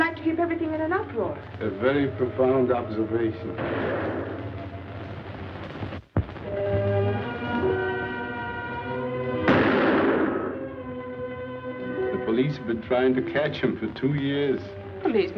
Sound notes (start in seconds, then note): 6.8 foreboding music; 9.4 gun fires